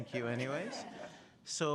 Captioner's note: laughter